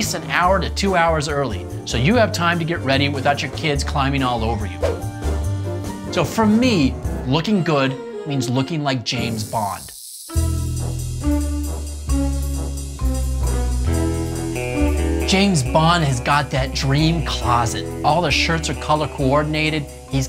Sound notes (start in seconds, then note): 4.9 gentle swoosh; 10.0 upbeat music